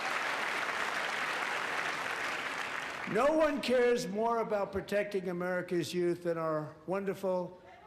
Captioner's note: applause